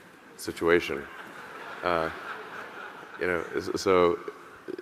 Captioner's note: audience laughing